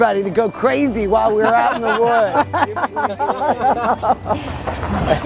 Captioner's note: all laughing